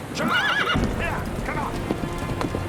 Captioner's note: horse whinnies; horses galloping